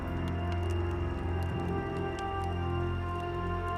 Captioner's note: crackling fire